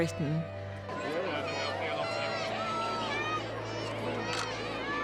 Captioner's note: croud cheering